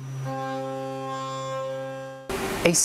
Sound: humming sounds from the CNC milling

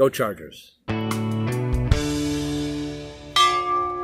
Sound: sound of bell ringing

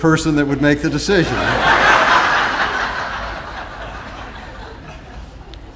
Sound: audience laughing

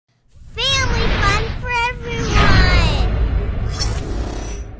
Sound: child's voice

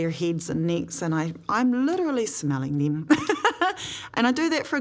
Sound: laughs

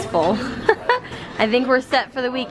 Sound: laughter

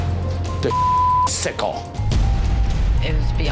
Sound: beep

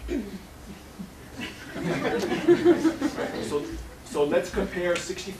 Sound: laughter

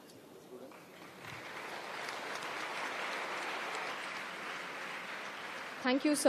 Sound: applause

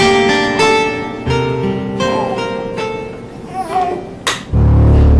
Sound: baby whining

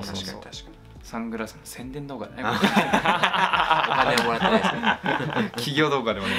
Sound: laughs

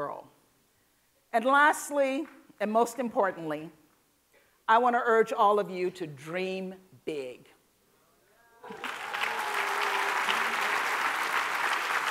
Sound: applause

